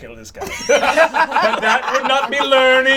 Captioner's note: all laugh